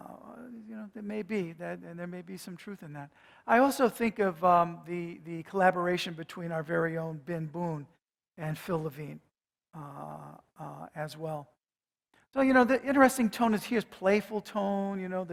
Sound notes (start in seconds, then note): none